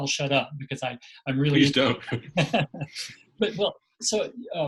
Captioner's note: laughing